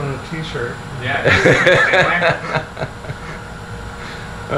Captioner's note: laughter